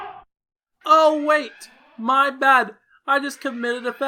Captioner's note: alarm blares; alarm becomes muffled